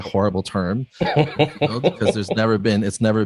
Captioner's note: laughs